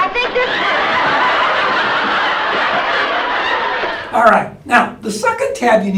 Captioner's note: laugh